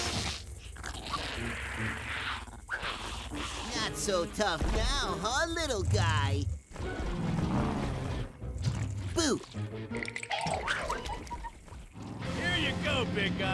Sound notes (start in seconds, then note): 9.4 quaking